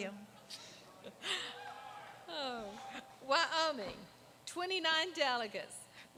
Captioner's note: laughter